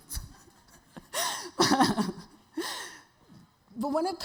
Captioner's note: audience members laughing